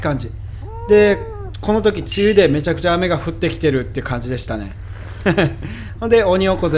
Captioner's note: haha